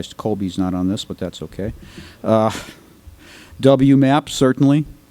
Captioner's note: laughs